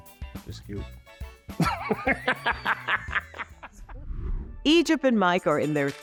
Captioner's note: laughs